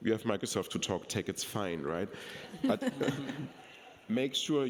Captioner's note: people laughing